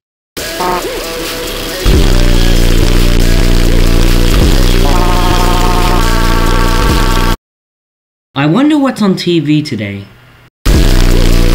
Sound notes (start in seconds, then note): 0.5 chirpy talk noise; 4.9 Chirpy screaming